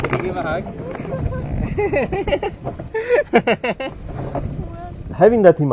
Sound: laugh

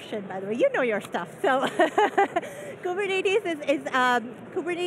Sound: laughing

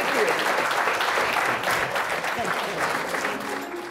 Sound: audience applauds; soft music

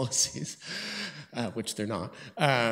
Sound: chuckles

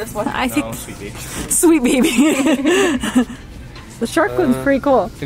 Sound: laughs

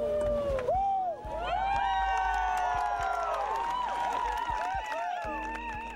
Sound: cheering increases

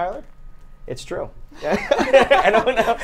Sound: everyone laughs

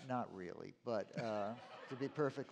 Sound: laughter

